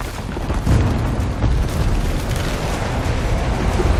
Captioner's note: rock creaking